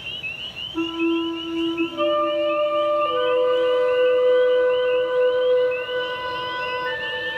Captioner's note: frogs chirping; gentle instrumental music